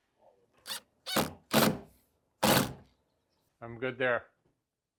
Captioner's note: drilling sounds